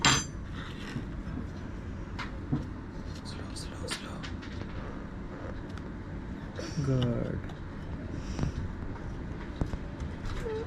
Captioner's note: whisper